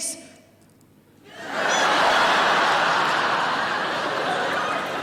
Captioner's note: audience laughing